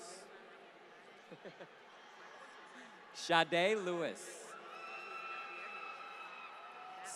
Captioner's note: laughter